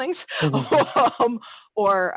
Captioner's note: laughs